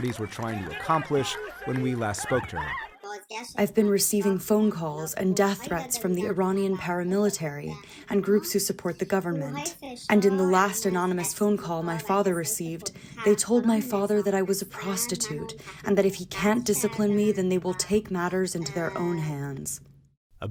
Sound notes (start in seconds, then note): 3.8 through translator